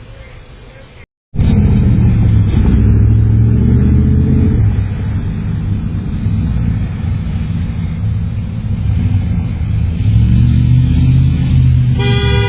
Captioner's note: Car continues to drive on Cheviot Drive